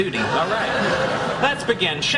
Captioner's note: laughing